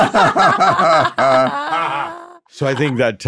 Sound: group laughing

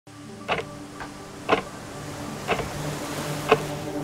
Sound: clock ticking

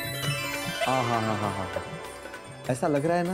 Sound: sighs

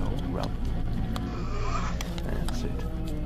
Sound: inhales

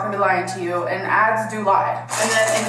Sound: plastic crinkling

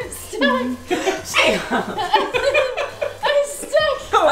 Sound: laughing

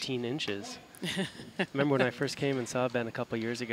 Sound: laughing

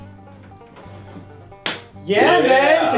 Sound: doors open and banjo music plays; slap

